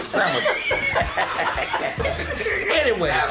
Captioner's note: laughter